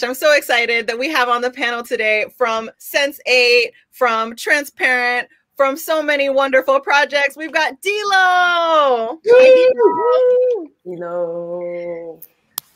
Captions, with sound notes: I'm so excited that we have on the panel today from Sense8, from Transparent, from so many wonderful projects, we've got D'Lo! (cheering)